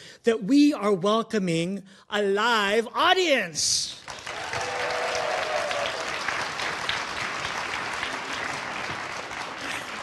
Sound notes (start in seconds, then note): 4.0 audience applauding